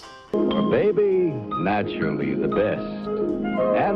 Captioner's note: commercial voiceover